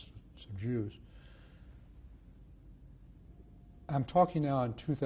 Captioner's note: pauses for 3 seconds